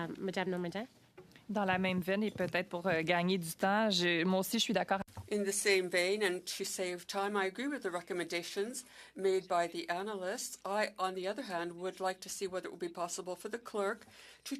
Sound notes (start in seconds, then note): 6.0 speaking French